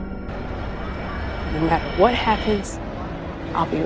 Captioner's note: voiceover